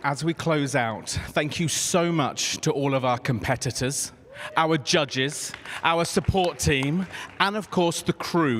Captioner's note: applause